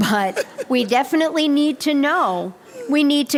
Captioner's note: laughter